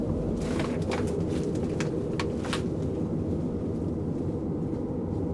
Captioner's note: footsteps rustling